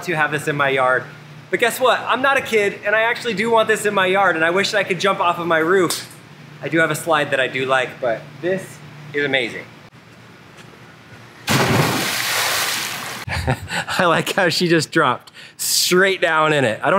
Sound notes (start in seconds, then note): 11.4 water splashes; 13.2 laughs